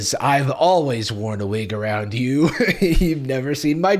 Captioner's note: laughs